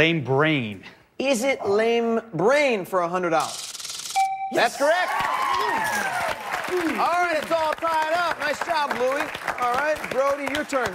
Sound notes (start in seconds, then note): 4.3 chime